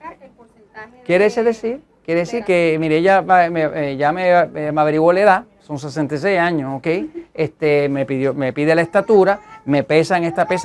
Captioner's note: laughs